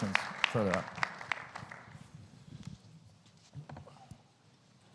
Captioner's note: audience clapping